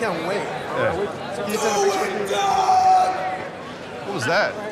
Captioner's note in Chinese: 喊叫聲